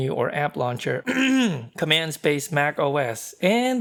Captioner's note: cough